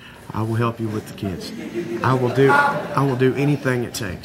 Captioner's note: audience laughing